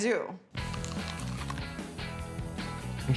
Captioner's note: biting